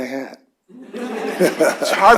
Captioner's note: laughter